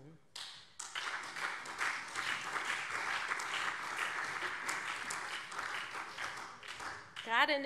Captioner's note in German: Beifall SPD, CDU und BÜNDNIS 90/DIE GRÜNEN